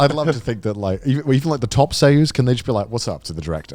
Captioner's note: speaking in Japanese